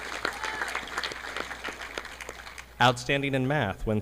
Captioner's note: audience clapping